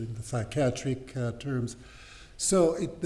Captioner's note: french